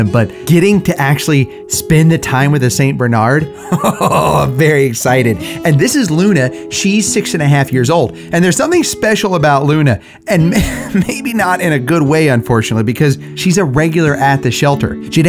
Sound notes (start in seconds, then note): 3.5 laughs